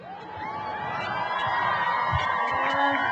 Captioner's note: cheering